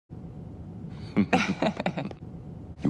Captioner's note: middle-aged man laughter